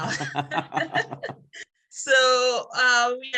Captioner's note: laughs